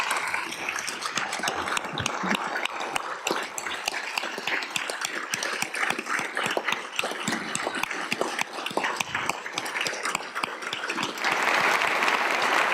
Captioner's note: applause